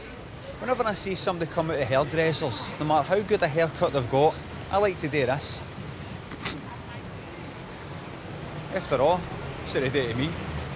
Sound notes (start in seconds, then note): 6.0 sniggers